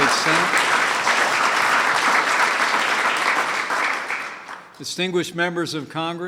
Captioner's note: applause